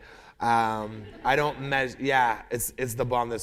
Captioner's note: laughter